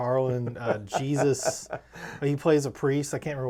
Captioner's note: laughing